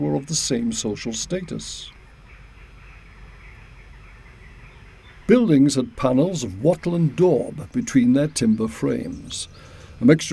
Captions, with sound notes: were of the same social status. (birds chirping quietly) Buildings had panels of wattle and daub between their timber frames.